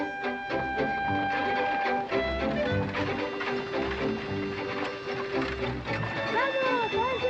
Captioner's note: horse and buggy approaching; children yelling excitedly